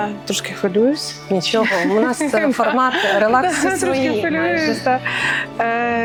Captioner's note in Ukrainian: сміх